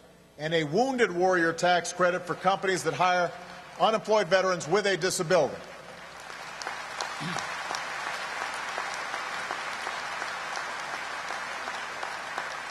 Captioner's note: applause